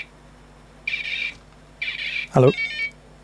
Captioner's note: beeping